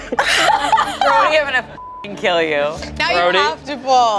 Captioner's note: everyone laughs; beep